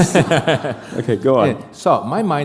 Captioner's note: laughter